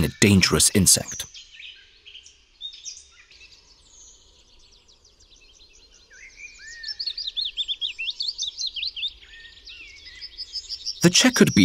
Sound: sounds of nature

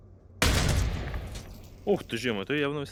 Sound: sound of a shot

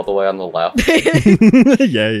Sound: teehees

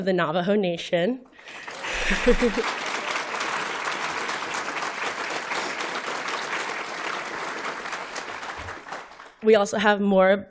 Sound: applause

